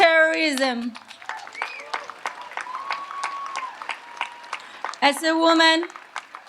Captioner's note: audience applauds and cheers